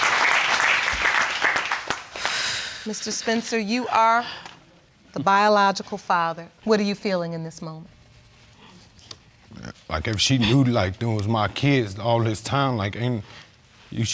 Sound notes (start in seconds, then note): 2.2 exhales